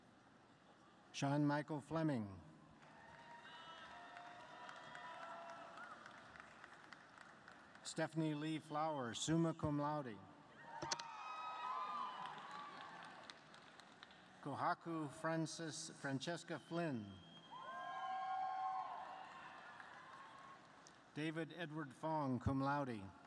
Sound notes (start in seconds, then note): 15.3 applause